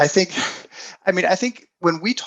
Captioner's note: chuckles